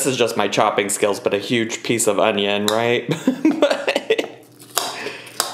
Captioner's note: laughs